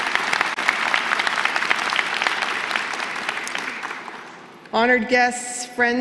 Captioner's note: applause